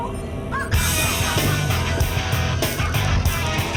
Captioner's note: laughs